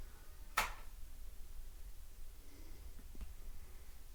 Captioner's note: click